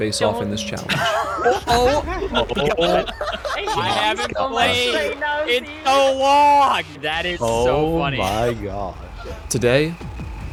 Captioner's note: chaos erupts